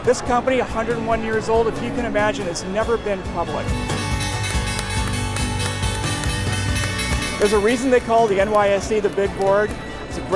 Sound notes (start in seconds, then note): 4.6 bells chiming